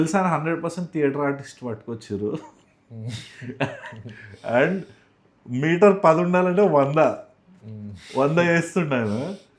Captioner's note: laughs